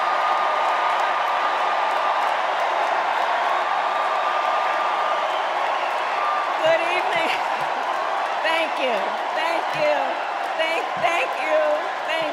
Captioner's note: cheers and applause